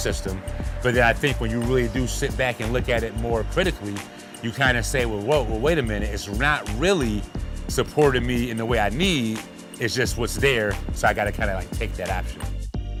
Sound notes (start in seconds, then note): none